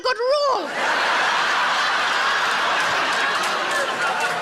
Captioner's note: audience laughs